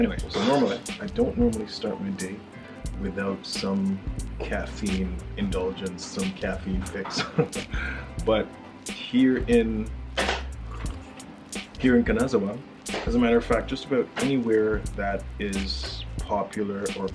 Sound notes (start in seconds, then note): 7.0 laughs; 10.7 man sipping